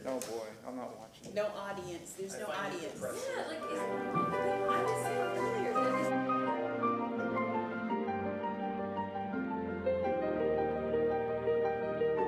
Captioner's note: gavel sounding